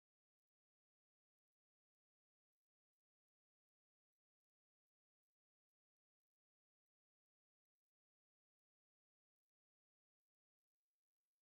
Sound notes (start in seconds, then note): none